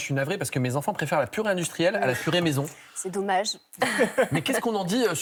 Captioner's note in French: rires